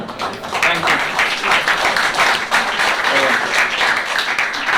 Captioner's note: applause